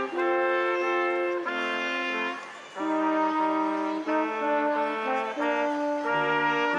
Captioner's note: instrumental music continues; crowd applauding